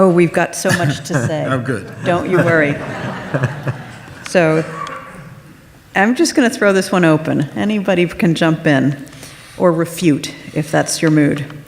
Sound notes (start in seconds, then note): 3.4 audience laughs